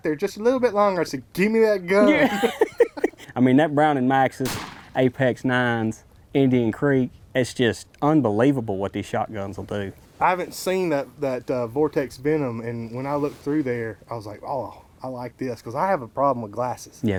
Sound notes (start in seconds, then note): 2.0 laughing